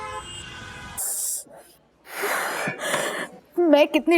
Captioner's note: gasps